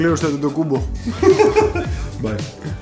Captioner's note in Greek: γέλια